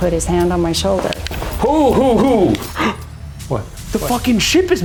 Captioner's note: exclaims